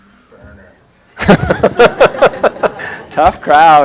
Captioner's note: laughter